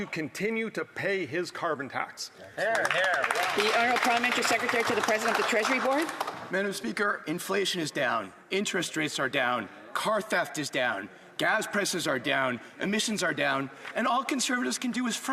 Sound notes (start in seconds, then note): 7.2 some Applause